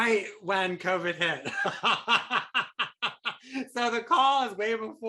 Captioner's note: laughs